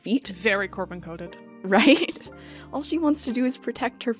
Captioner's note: laughs